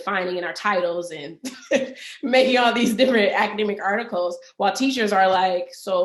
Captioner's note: laughs